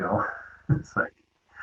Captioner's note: laughs